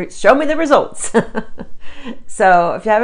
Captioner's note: chuckles